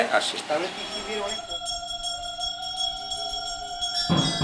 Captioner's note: ululating